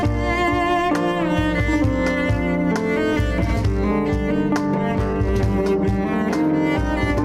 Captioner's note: delightful music; humming